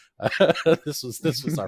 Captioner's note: laughing